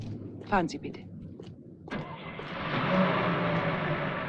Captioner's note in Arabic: تتحدث بلغة أجنبية; هدير المحرك